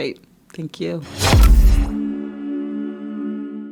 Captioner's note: logo swooshing